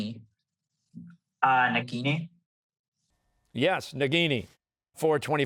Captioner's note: none